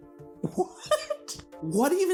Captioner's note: giggle